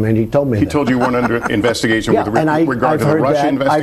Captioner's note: laughs